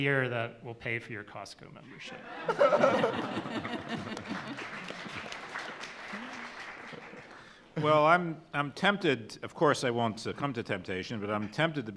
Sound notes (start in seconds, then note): 2.1 laughs; 3.9 clapping